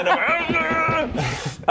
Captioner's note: cartoon running sounds